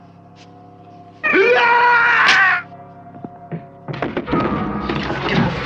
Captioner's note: screaming